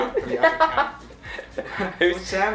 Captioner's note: laughing